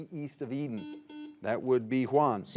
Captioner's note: signal beeps